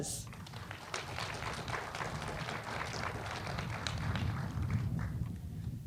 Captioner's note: applause